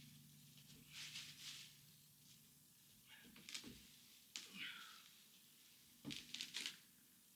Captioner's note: sighs